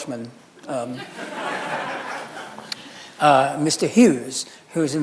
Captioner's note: audience laughing